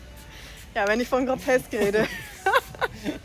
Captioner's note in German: Lachen